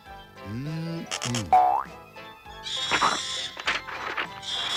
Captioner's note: screeches